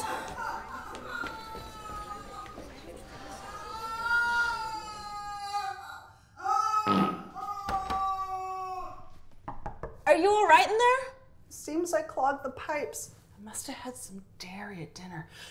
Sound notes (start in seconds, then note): 0.3 wailing in the distance; 5.3 wailing continues; 6.8 farts and wails